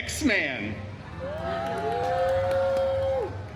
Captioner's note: guests cheering